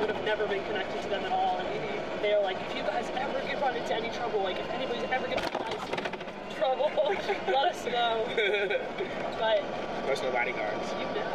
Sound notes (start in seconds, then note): 8.3 laughs